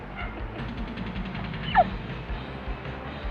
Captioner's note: laughing